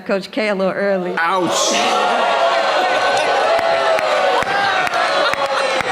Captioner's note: audience groans; people clapping